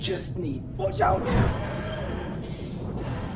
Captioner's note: roarrr!